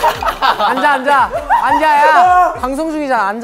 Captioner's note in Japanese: ずっと笑いが…